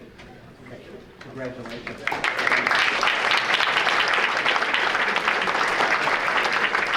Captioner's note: audience applauding